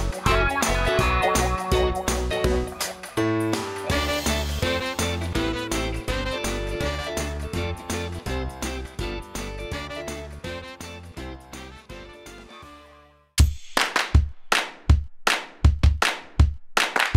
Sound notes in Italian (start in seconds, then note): 4.4 Applauso